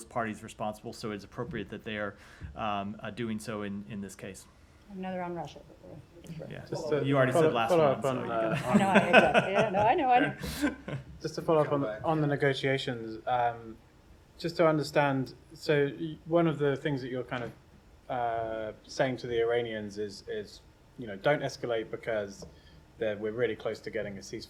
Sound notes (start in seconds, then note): 8.3 laughter